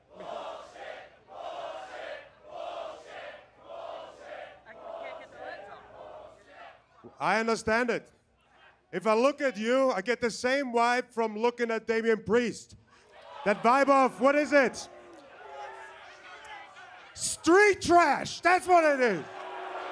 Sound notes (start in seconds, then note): 4.1 crowd chanting